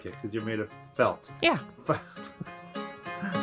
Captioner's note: laughter